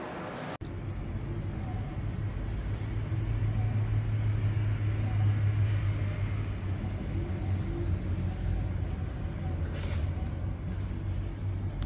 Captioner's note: printer machine noise